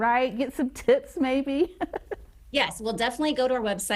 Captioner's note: laughs